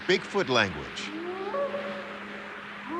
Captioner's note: short howls